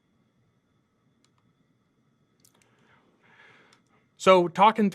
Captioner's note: computer mouse clicking